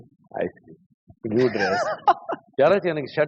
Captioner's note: laughs